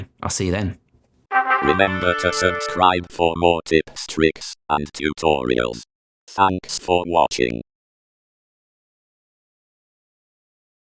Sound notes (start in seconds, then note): 1.3 trumpet fanfare; 1.7 electronic voice